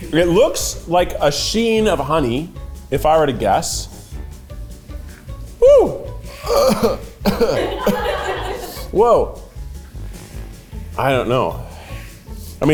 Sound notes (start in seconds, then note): 6.4 cast laughing